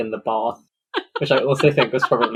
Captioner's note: laughs